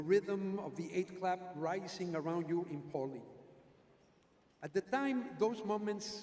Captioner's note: none